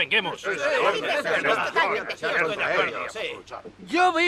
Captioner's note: townsfolk murmur